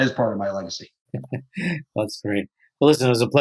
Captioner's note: chuckles